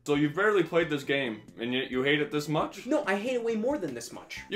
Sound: none

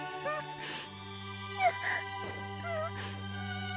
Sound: sobs

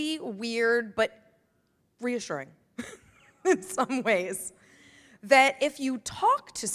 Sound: laughs

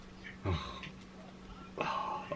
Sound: sighs

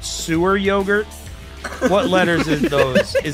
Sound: laughter

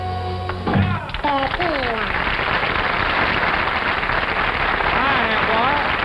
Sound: audience applauding

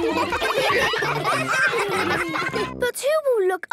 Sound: ruckus

